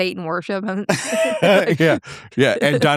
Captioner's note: laughing